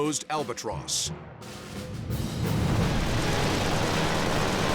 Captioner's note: weapons firing